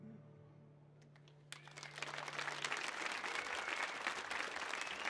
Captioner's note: audience applauds